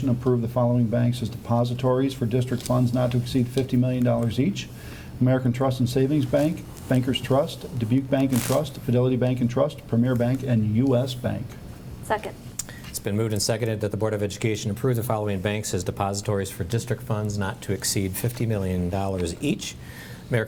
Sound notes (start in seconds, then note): none